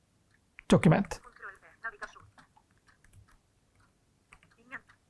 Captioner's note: computerised voice speaks